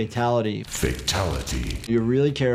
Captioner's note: flames crackling